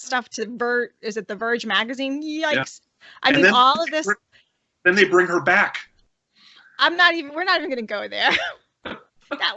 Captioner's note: laughter